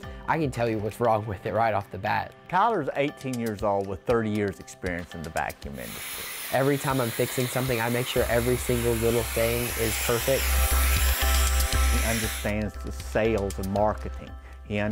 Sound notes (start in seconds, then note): 10.7 high-powered sucking of air; 10.7 repetitive bright music